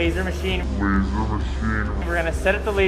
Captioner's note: voice deep and slow